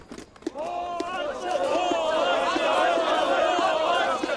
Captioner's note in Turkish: Bağrışma sesleri